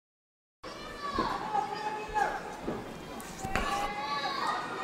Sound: crowd yells

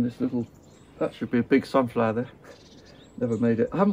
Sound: chuckles

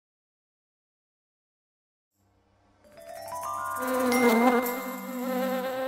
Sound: buzzing

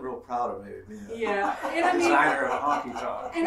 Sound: laughing

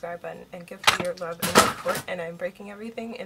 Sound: keyboard falls

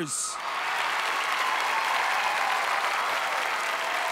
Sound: crowd applauding

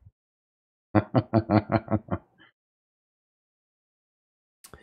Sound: chuckles

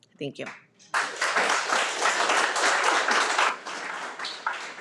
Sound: everyone applauds

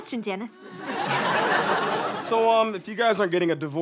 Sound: audience laughter

